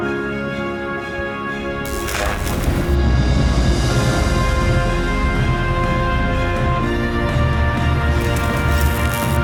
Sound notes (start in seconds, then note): 1.9 lightning sfx